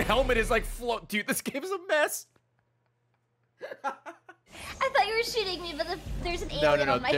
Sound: laughs

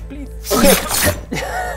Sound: shing!

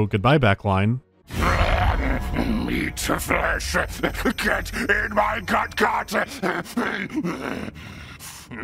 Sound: snarls; manic growling

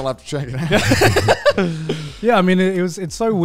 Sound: all laughing

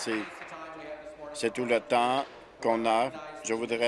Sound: applause

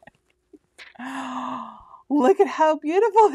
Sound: loud inhale

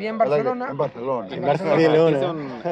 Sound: Spanish accent

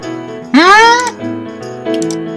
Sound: snoopy question sound

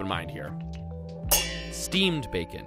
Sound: pans clanging

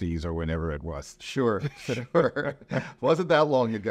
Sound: laughs

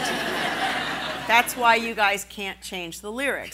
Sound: laughing

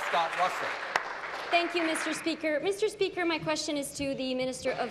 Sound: applause

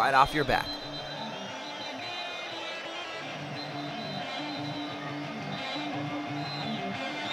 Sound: crowd cheering; rock music

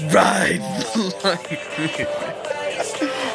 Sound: laughing my a** off

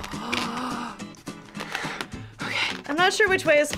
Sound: gasps

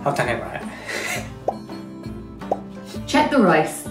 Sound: popping sound

